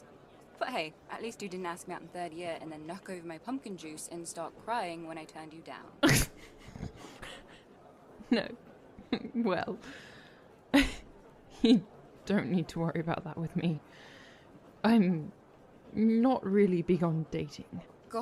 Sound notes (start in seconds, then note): 6.0 Regulus chokes on his laughter